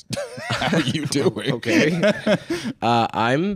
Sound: laughs

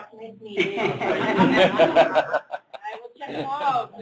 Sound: laughter

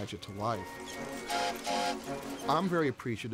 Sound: horn tooting

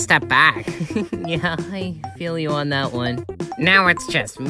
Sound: chuckles

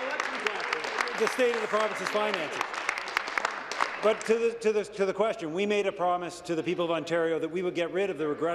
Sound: applause

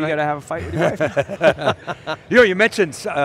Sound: laughter

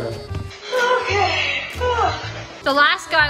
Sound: yawns

